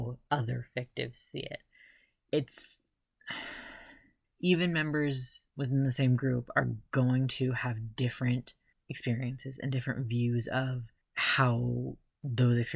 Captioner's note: sigh